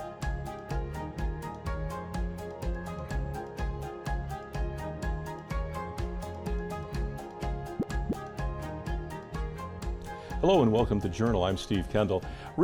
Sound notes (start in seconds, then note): 7.6 graphic pops